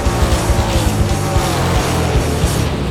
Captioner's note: race sounds